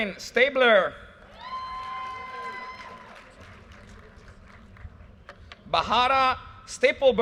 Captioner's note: audience cheers and applause